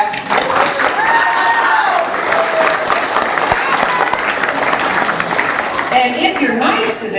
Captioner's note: applause